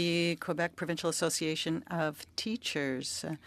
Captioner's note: speaking French